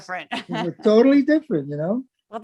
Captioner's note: laugh